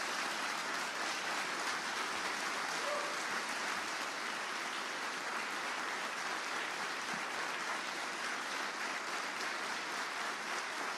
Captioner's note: applause